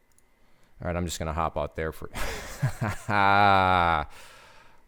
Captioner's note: laughs